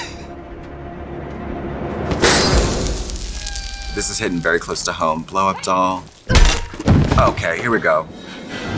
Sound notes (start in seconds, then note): 0.0 suspenseful music; 2.6 beads rattling